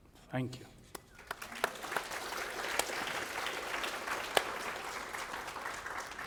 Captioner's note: applause